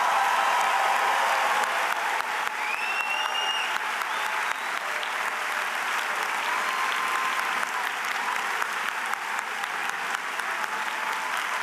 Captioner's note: applause